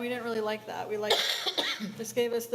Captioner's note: coughs